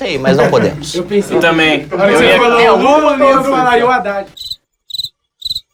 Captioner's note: som de grilo